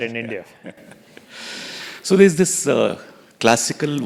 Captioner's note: laugh